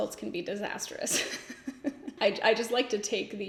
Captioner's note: laughs